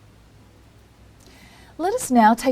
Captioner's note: pause